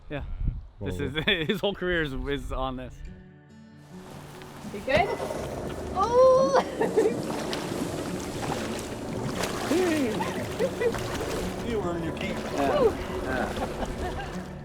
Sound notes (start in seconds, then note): 5.9 groaning; 9.6 laughing